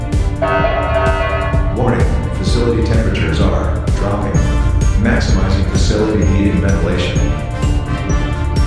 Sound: announcement Chime

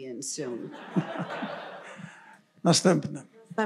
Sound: laughter; foreign language

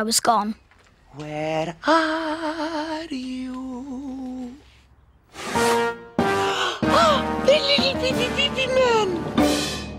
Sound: whisper

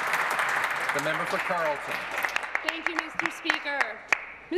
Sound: applause

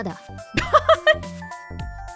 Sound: chuckles

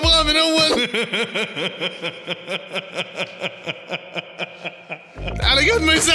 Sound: laughter

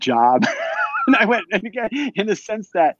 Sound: both laugh

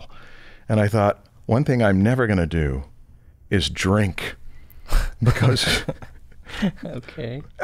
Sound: chuckles

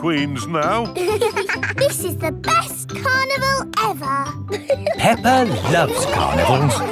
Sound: both giggling

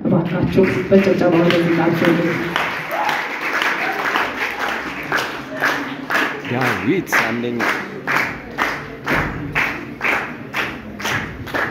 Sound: applause

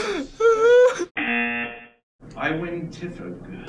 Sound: laughs; buzzer rings

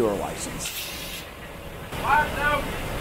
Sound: steam blowing

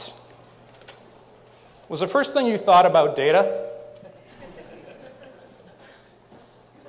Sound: laughter

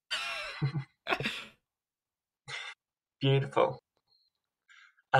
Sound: chuckles

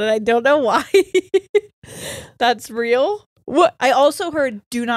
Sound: laughs

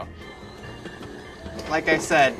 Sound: whirring

